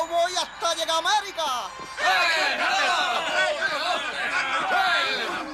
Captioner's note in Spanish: gritan